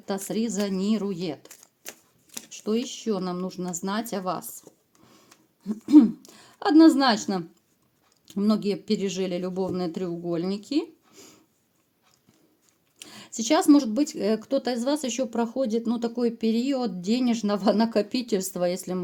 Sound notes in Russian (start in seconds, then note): 5.7 откашливается